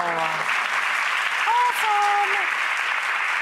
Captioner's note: audience applause